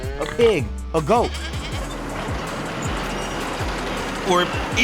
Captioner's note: tractor rumbling